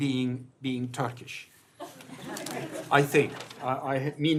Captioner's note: laughter